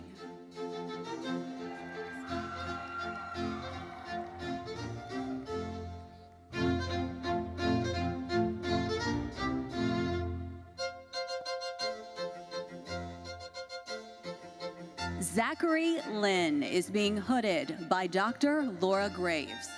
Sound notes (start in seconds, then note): 0.2 lively classical music continues; 1.5 audience cheering; 3.1 audience applauding; 8.7 lively classical music continues